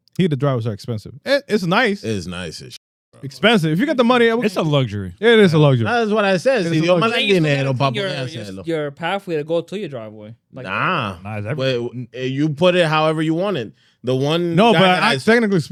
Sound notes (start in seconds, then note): 7.4 speaking In Foreign Language